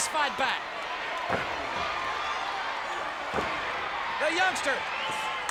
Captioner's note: audience cheers